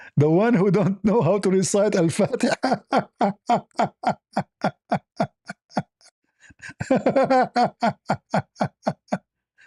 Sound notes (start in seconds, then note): 2.1 laughter